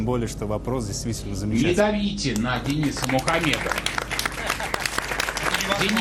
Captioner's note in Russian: аплодисменты